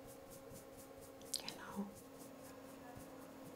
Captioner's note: quietly